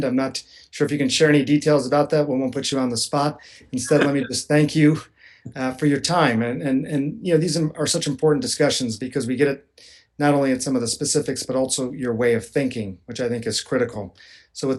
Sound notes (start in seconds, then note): 3.8 laughter